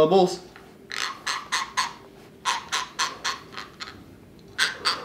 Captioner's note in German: knirscht mit den Zähnen